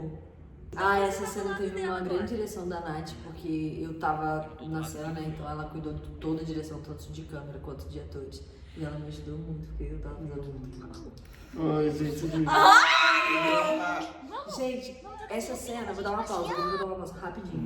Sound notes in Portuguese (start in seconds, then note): 12.5 gritos